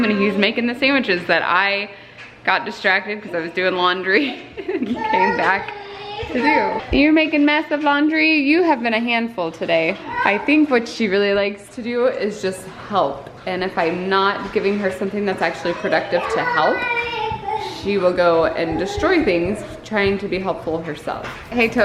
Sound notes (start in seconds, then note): 4.2 laughs